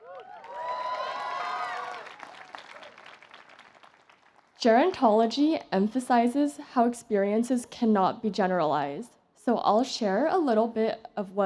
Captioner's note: applause